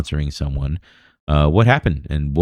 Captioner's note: uh